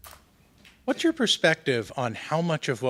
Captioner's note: voiceover